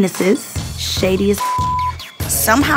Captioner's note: beep